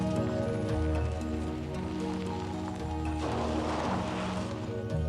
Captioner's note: van engine revving